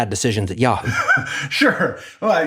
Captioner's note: laugh